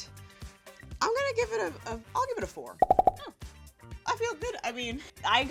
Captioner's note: popping